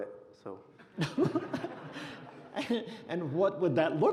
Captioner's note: laughing